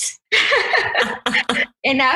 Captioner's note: laughs